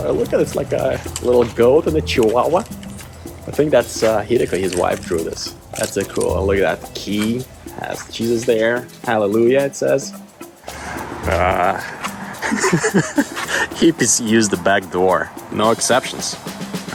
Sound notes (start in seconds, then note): 12.3 laughing